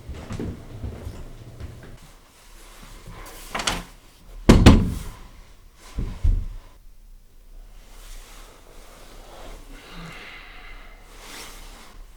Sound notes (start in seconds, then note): 4.5 door closes